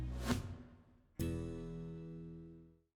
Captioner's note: air whooshing